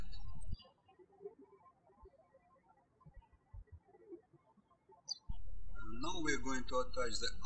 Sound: birds chirping

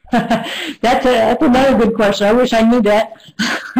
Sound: laughs

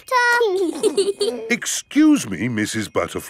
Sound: both giggling

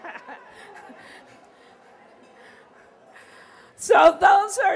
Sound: laughter

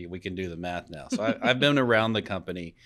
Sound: laughing

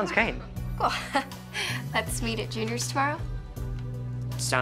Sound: laughs

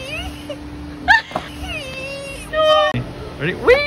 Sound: laughs

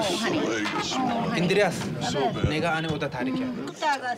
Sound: speaking foreign language

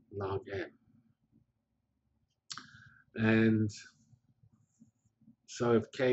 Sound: pause

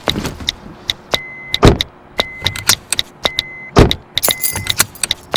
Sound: beeping

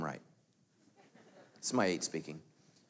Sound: light laughing

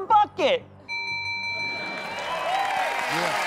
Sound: bell rings

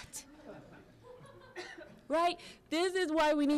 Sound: audience laughing

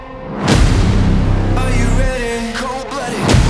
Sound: none

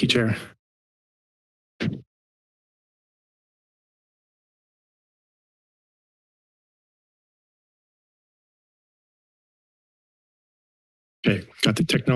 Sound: pause

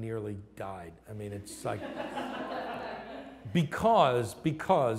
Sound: laughter

